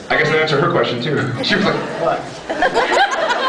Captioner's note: laughs